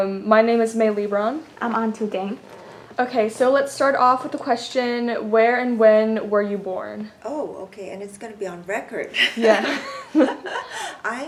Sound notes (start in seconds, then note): 9.2 laugh